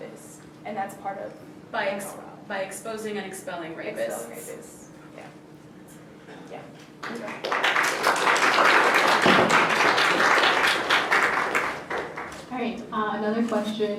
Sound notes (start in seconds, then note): 7.0 applause